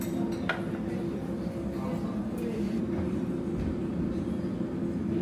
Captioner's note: crowd chattering